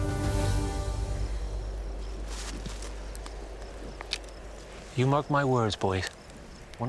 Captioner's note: crickets chirping